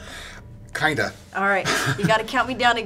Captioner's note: laughs